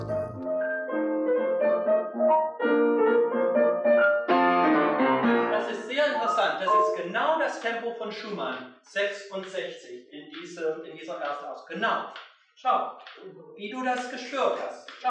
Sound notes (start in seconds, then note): 2.2 playing in bright rhythm; 6.6 speaks German